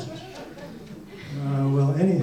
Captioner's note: audience laughs